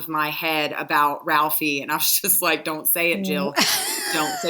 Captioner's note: laughing